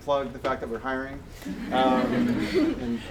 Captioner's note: audience chuckles